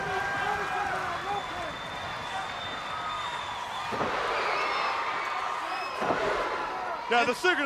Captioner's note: crowd cheering